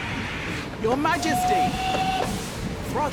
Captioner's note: whistle blows